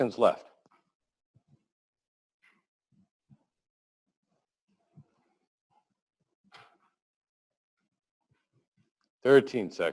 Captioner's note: pause